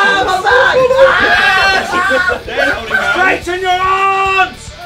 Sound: Vik screaming

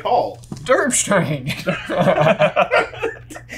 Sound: laughs; laughing

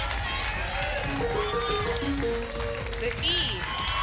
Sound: applause and cheering; pinging sounds

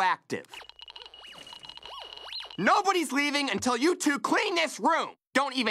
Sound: meter buzzing

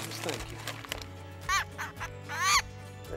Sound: squawking

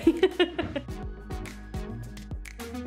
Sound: laughing; upbeat music

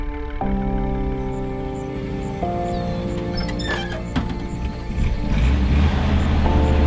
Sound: birds twittering; insects chirring

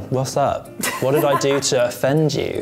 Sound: laughs

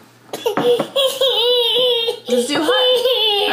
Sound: baby crying

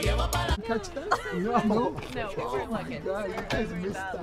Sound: voices clamoring

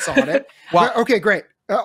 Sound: chuckles

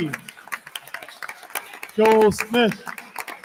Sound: attendees continue applauding

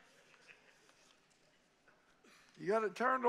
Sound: congregation laughing

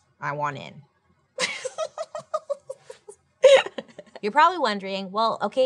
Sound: giggling

